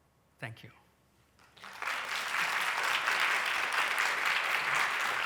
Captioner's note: applause